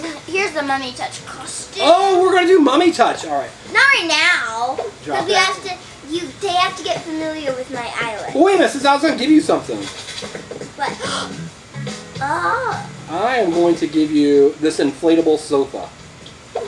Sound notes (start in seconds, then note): 11.0 assistant gasps